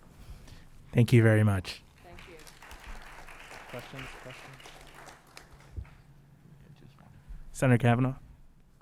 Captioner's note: applause